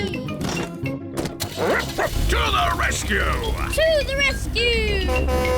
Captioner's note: barks; horn blares